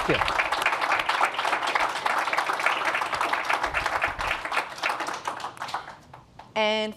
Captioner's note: Applaudissements